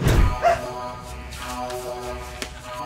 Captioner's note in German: Alarm